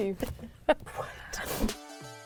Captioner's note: laughing